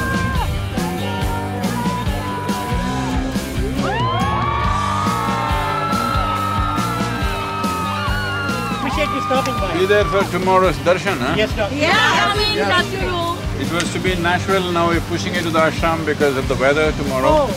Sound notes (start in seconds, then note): 3.6 cheering/Applause